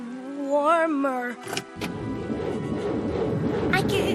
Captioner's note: engine grinding